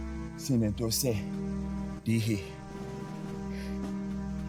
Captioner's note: speaking Cherokee language